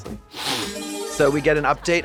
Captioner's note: bright chime